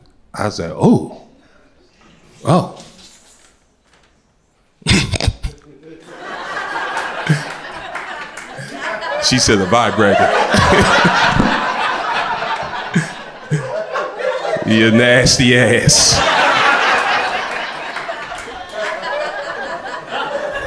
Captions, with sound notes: I said oh oh. [crowd laughter] She said, a vibrator. [crowd laughter] Your nasty ass. [crowd laughter]